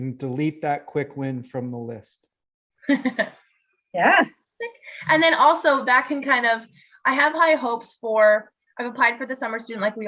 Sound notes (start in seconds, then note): 2.8 laughs